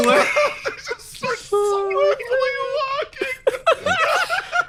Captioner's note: through tears; laughs